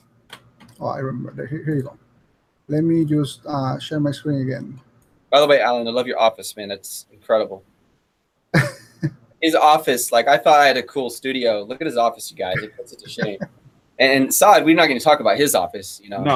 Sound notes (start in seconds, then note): 8.5 chuckles